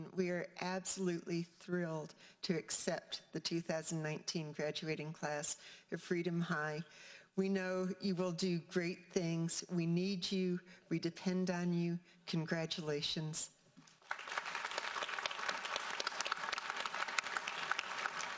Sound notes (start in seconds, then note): 14.0 audience applauding